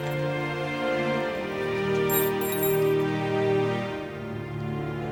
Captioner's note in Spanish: tintineo de teclas